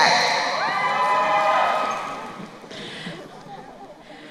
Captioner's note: crowd cheering